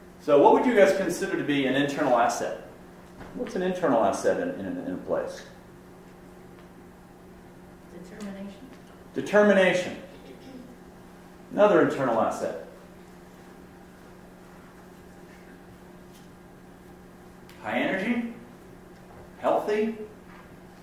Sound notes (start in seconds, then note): 8.0 voiceover